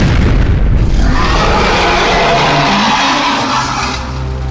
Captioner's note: booming roar